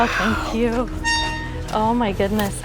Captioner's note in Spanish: Rechina la puerta